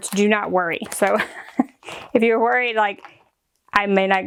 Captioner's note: chuckles